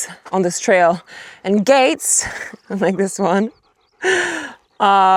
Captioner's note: chuckles